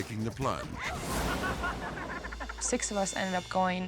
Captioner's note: friends laughing